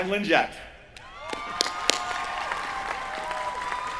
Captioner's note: cheering